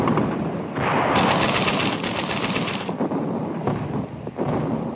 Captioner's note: bombs explode